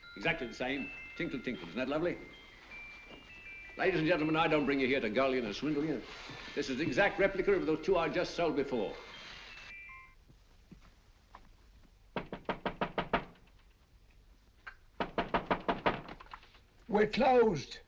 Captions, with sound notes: Exactly the same tinkle, tinkle. Isn't that lovely? Ladies and gentlemen I don't bring you here to gull you and swindle you, this is the exact replica of those two I just sold before. [knocking on door] We're closed.